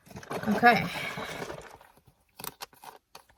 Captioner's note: milk sloshes again